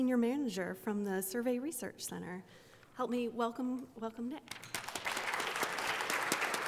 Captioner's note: applause